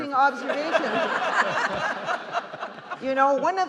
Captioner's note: justices and audience laughing